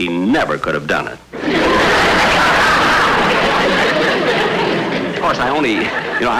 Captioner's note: audience Laughing